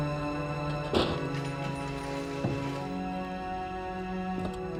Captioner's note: door slams